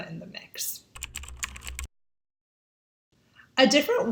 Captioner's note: keyboard clicking